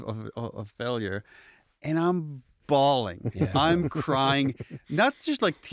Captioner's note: laughter